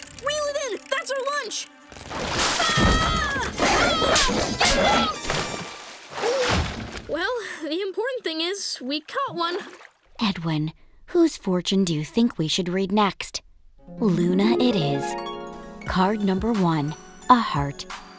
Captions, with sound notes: Reel it in, that's our lunch! [screaming] [smashing] [gasping] Well, the important thing is... we caught one! Edwin, whose fortune do you think we should read next? Luna it is. Card number one, a heart.